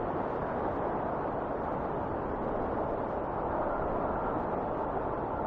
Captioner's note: wind whistling continues